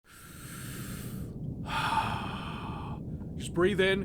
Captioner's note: inhales, sighs